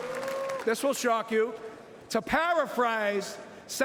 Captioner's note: cheering and Applause